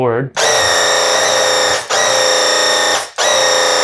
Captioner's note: paint gun blasting